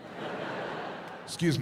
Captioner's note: audience laughs